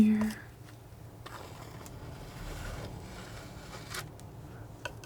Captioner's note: scratching